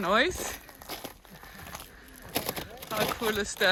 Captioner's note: rocks crunching underfoot